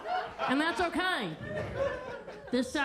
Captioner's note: attendees laughing